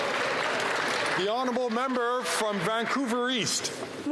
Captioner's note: some Applause